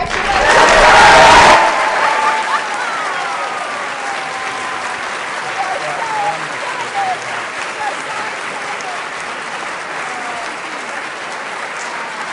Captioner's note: applause